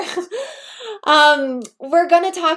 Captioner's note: giggles